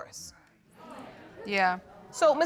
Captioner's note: audience agreeing